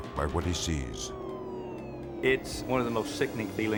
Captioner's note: sirens wailing